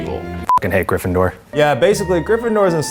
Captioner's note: beep